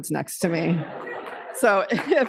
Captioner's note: laughter